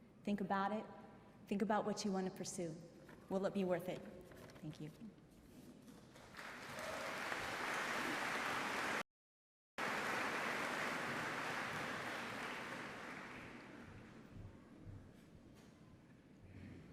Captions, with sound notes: get one life, think about it, think about what you want to pursue pursue. Will it be worth it? Thank you. (applause)